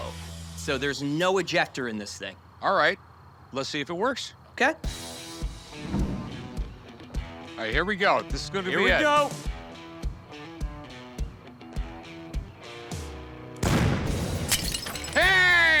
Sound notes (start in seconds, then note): 4.5 rock music playing; 13.6 echoing blast; 14.4 glass tinkles